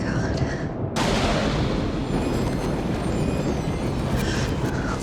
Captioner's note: thunder cracks